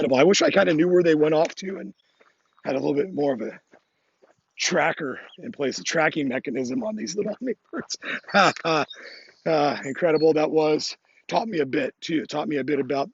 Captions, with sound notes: Incredible, I wish I kind of knew where they went off to and had a little bit more of a tracker in place, a tracking mechanism on these little hummingbirds (laughs). Incredible that was. Taught me a bit too, taught me a bit